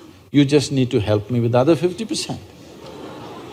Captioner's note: laughter